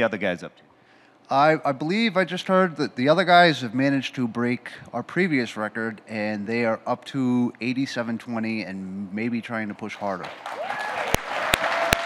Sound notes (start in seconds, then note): 10.4 audience cheers